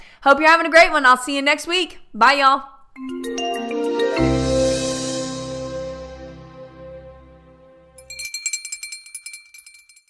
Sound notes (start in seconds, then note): 3.0 cheerful digital music; 7.9 bell ringing